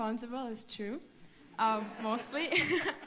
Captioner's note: laughter